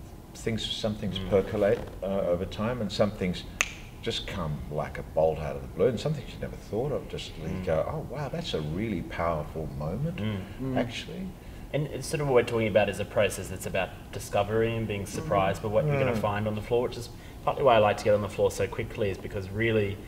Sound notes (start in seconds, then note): 3.6 snaps fingers